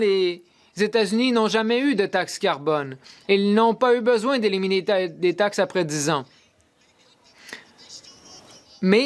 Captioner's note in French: voix de l'interprète